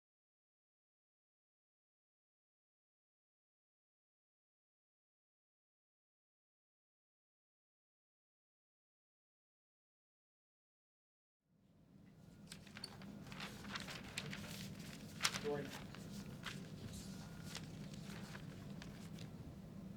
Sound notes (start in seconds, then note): 12.3 papers rustling